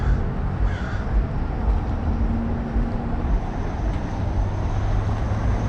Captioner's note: street noise